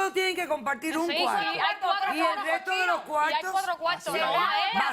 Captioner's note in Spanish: Hablan al unísono